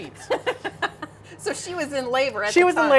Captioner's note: laughing